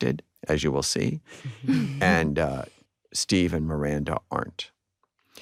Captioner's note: all chuckle